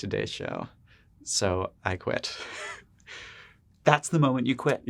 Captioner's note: laughs